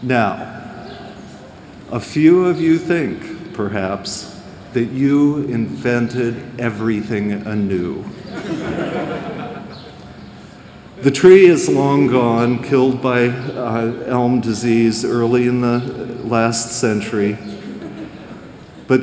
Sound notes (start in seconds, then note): 8.2 laughter